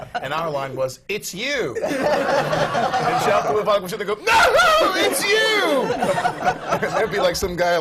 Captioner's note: laughter; shrieks with laughter